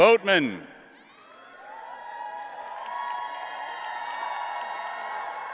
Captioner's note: audience cheering